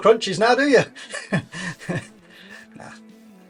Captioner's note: laughs